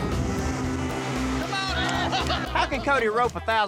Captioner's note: laughter